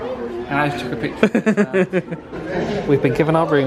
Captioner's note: laughs